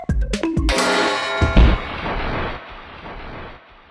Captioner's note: bonk--crash--slam